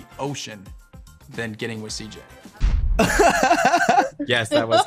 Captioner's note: group laughing loudly